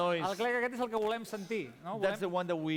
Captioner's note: non-english speech